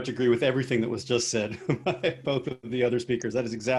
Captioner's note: laughs